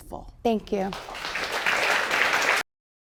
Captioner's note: audience applauding